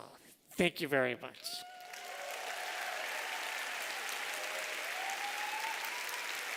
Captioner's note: applause